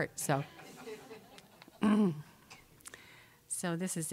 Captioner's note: audience laughing